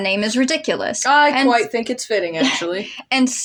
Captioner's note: chuckle